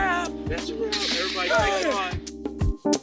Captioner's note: loud metal bang